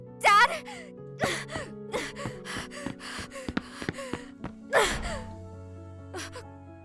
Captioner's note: panting